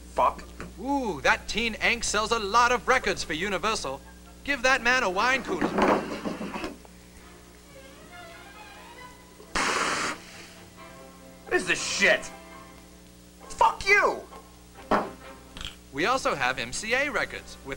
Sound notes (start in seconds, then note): 5.6 bottle sliding; 14.9 bottle bangs